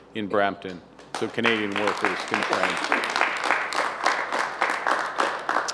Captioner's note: applause